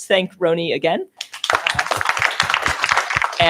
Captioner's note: applause